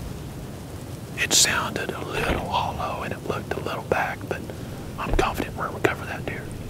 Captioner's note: whispering